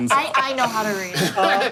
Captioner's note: laughing